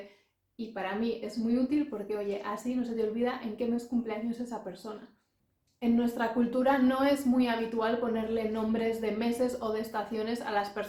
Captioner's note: also in English